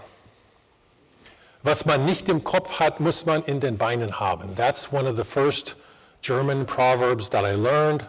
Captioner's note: foreign Language